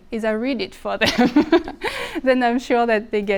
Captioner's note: speaker laughing